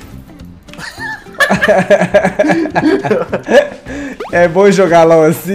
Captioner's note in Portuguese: risos